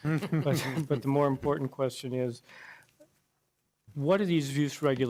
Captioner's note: laughter